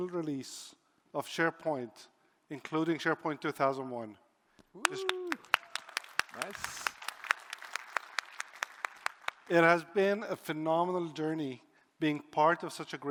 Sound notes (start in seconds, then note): 4.8 applause